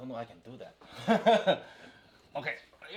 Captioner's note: laughs